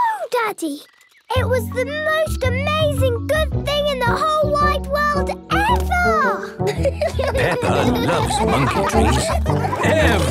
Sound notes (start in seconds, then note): 6.6 laughing